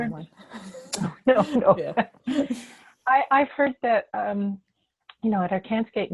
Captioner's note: laughing